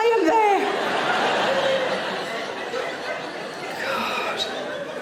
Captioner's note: audience laughing